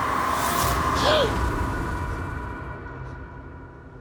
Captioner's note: Carl gasping